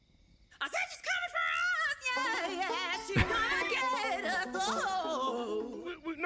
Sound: laughs

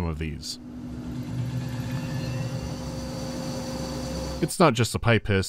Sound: quiet hissing of steam

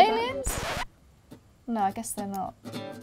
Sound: record scratching

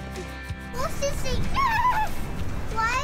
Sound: horse sound effect

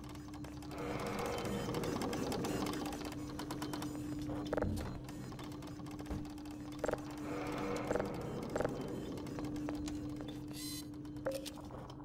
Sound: sirens in the distance

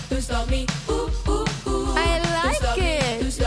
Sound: ooh, ooh, ooh

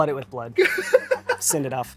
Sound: laughs

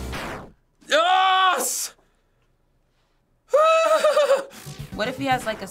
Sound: giddy laughter

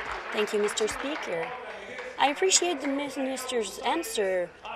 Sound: applause

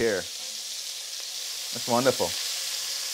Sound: meat sizzling

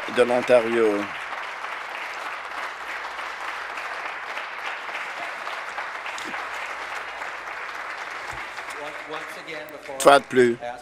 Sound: applause

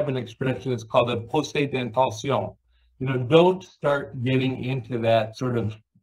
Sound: french

